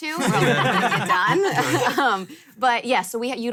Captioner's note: all laugh